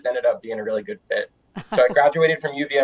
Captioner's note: laughing